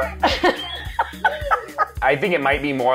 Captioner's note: laughing